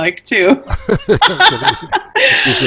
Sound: laughs

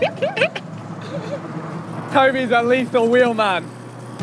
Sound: both laughing

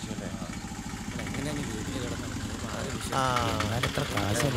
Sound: people discussing in the background

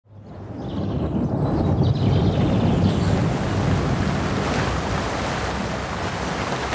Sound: birds singing

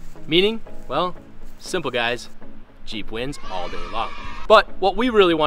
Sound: audience Cheers

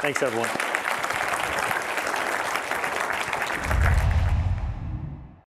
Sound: applause

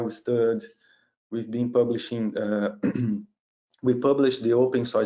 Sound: clears throat

